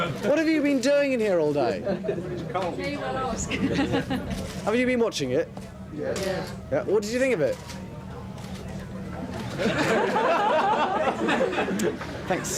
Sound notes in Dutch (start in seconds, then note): 2.5 journalisten mompelen; 9.4 journalisten lachen